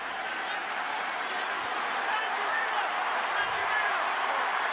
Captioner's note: cheering